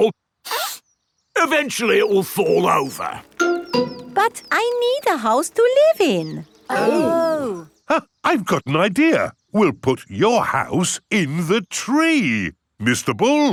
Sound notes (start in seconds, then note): 0.4 sniffs; 6.7 gasps